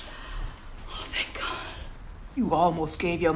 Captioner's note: whispering